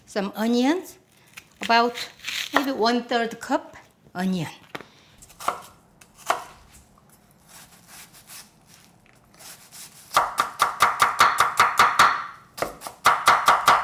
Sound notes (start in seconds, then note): 9.4 knife chopping